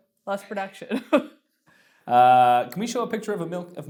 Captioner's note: laughs